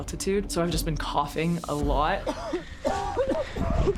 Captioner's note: coughing loudly